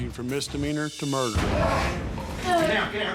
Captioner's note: grunting